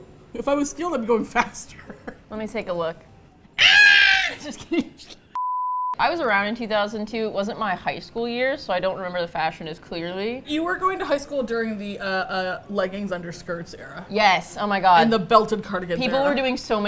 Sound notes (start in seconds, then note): 1.6 laughs; 3.6 shrieks; 4.1 both laugh